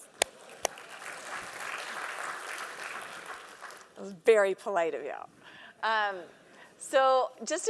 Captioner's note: applause